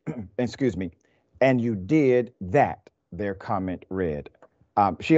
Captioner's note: cough